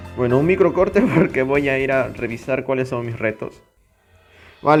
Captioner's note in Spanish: Risas